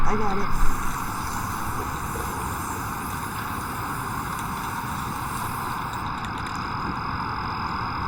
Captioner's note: paint sprays; spray paint can shakes